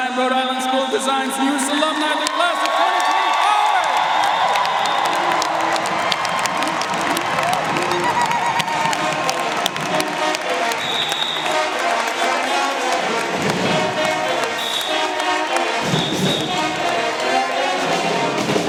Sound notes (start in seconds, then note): 4.0 audience cheering and applauding; 10.2 cheerful marching band music